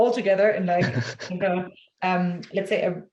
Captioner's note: chuckles